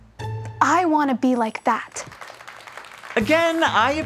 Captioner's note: clapping